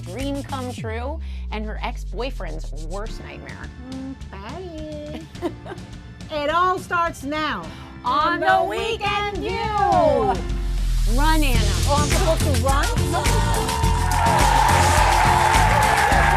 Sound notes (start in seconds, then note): 5.1 laughing; 13.9 upbeat music